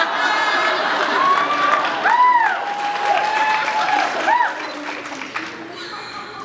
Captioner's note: cheers, applauds; laughs